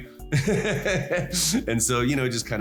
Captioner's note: laughs